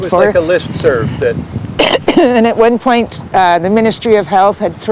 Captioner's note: nods, coughs